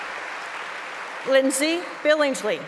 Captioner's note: applause